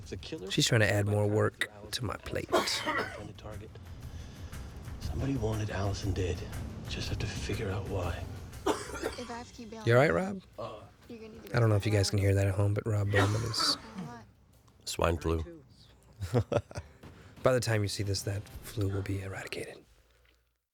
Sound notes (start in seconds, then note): 8.6 coughing; 16.2 laughs